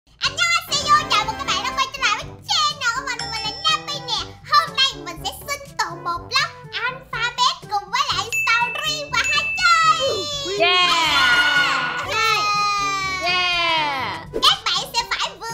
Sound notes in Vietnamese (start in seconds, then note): 2.8 Chuông